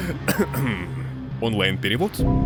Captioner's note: coughing